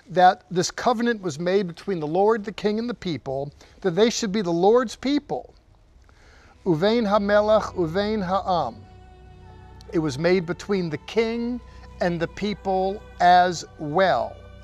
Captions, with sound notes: That this covenant was made between the Lord, the king, and the people, that they should be the Lord's people. [Speaking in Hebrew] It was made between the king and the people as well.